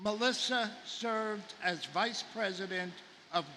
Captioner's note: none